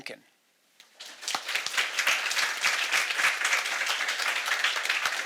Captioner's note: audience applauding